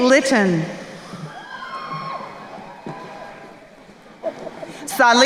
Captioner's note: crowd cheering